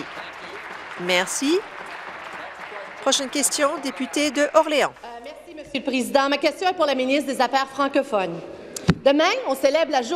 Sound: some Applause

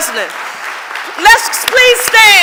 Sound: audience applauding

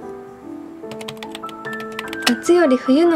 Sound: typing

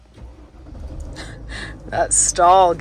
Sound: engine starting

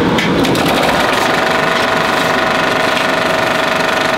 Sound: projector Noises

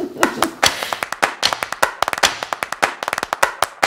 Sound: fast, rhythmic clapping

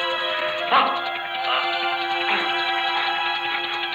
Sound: wincing

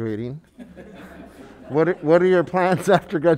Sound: members laughing

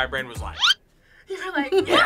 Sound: screen toots; laughs

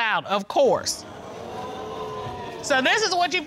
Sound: audience exclaiming

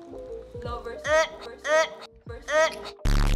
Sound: retches

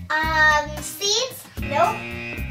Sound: buzzer

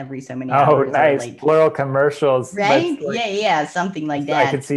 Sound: laughs

